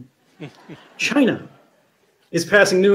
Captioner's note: audience laughing